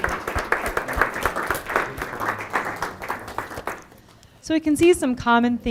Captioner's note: audience applauding